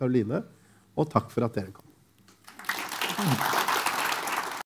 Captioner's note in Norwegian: applaus